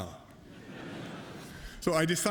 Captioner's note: laughter